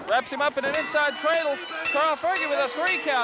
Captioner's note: bell dinging